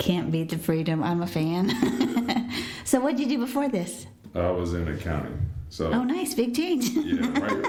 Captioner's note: laughter